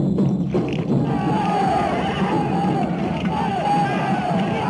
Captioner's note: men shouting